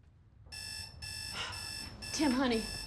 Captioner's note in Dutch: wekker zoemt